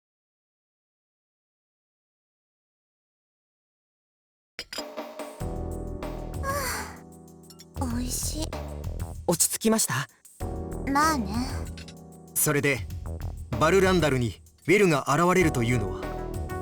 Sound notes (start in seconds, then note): 6.8 relaxed sigh